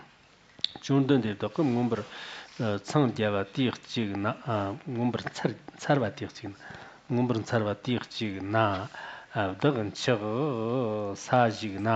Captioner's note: giving oral transmission in Tibetan